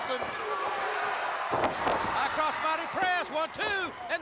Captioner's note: crowd cheering